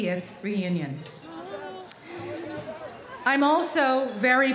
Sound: chatter

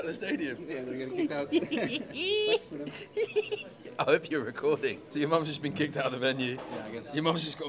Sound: laughs

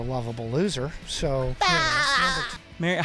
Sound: spongebob laugh intensifies

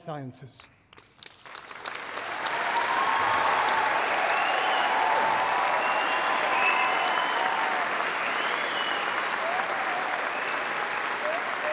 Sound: applause

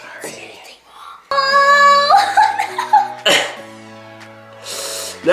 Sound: laughs

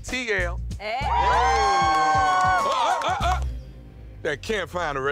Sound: cheering

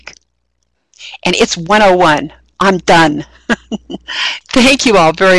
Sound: laughing

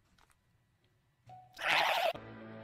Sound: another disgruntled noise

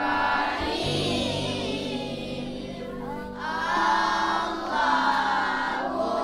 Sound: none

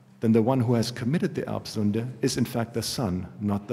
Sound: german

